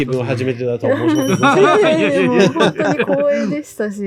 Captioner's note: laughs